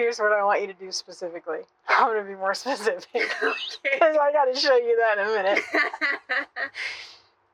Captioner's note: both cracking up; laughing